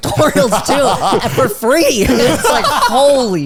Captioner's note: all laughing